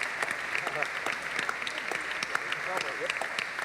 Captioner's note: applause